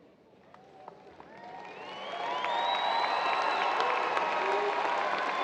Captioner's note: audience cheers and applause